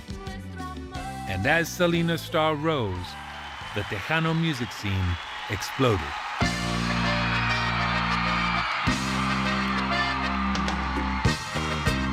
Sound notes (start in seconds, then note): 8.8 fans cheering